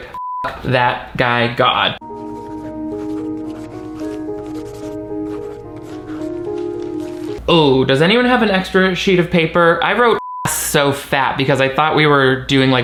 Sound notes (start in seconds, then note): 0.1 beep; 2.0 somber instrumental music; 2.0 pens scribbling; 10.2 beep